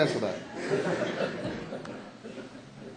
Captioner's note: laughter